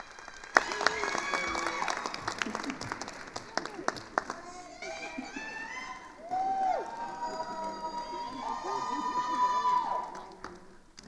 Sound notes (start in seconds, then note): 6.8 attendees cheering